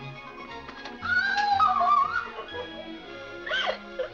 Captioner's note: upbeat music; Mary cries out; Mary sobs